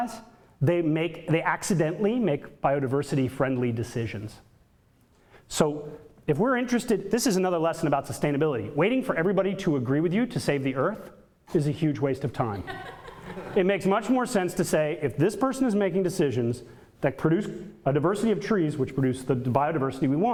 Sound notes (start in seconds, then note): 12.6 audience laughter